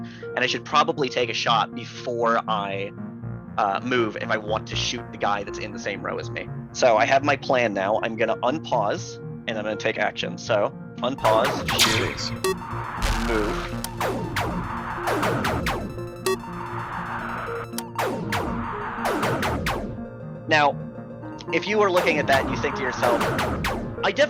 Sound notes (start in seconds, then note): 12.9 in-game ship exploding; 14.7 in-game rapid beeping; 14.7 in-game ship shooting